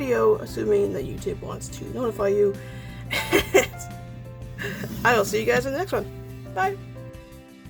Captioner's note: laughs